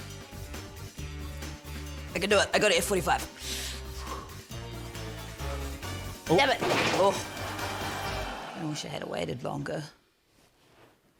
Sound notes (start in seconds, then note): 3.4 exhales